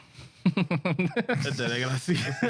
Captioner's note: laughing